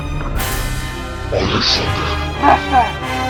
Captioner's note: in agony